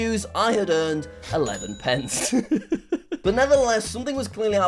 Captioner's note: laughs